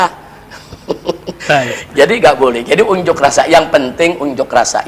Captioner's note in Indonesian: tertawa